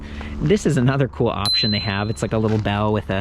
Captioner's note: bell dinging